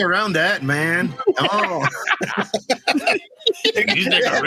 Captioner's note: laughs